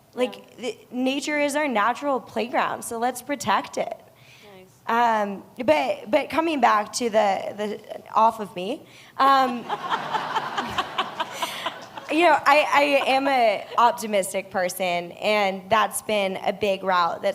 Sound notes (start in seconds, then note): 9.4 laughter